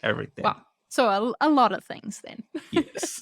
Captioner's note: chuckles